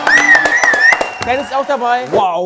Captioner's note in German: Pfeifen